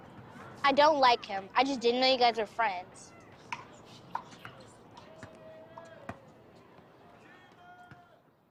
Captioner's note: whispering